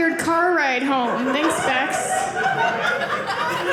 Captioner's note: audience laughing